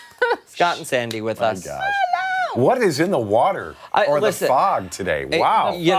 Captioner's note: laughter